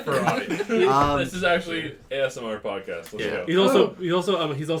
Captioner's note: laughter; shudders audibly